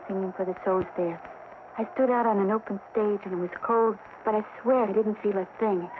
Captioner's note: crowd cheers; gentle music